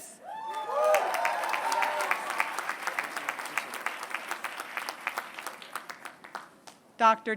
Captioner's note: applause